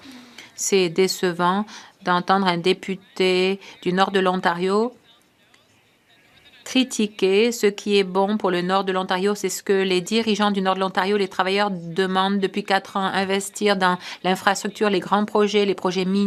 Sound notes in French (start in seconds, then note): 3.3 voix de l'interprète